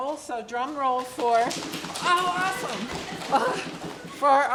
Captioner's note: hands slapping laps quickly